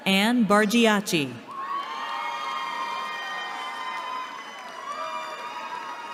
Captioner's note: cheering